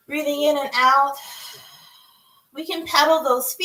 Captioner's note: exhales